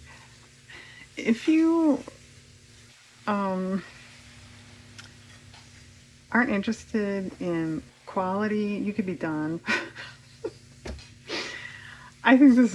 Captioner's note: laughs